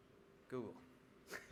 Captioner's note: laughing